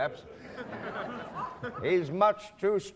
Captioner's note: laughing